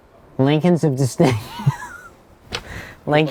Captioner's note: laughing